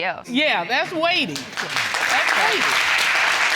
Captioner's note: audience applauds